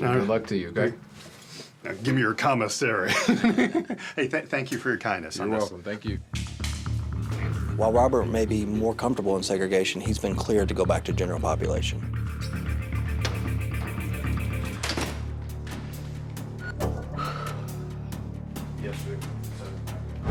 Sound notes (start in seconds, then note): 3.3 laughs; 14.7 cell door closes; 17.0 sighs